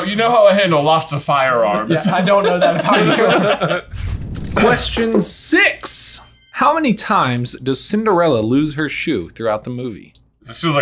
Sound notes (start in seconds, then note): 2.0 everyone laughing